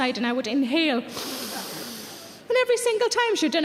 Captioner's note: Sarah inhales